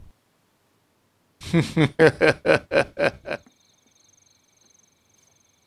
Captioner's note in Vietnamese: Tiếng cười